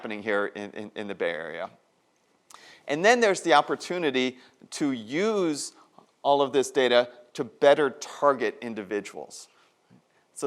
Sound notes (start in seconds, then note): none